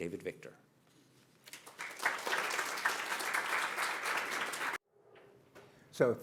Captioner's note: applause